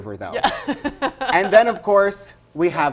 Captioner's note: laughs